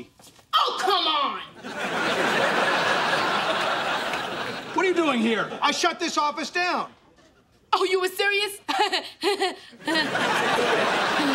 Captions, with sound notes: Oh, come on! What are you doing here? I shut this office down. Oh, you were serious? [chuckles awkwardly]